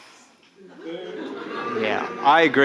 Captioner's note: audience booing